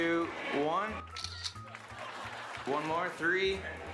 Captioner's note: camera shutter clicks